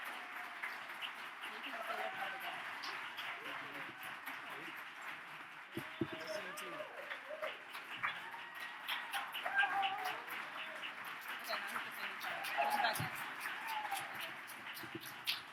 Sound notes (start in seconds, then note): 5.1 audience cheers; 8.0 audience cheers